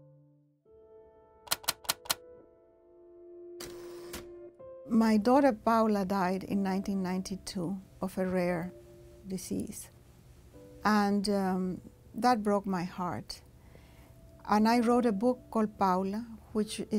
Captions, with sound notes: [TYPING] My daughter, Paula, died in 1992 of a rare disease. And that broke my heart. And I wrote a book called Paula, which